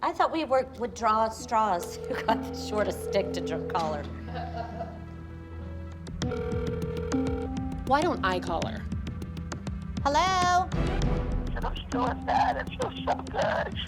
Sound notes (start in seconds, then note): 4.1 laughs; 6.2 phone ringing; 11.6 on phone